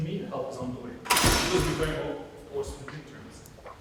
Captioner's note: heavy object crashing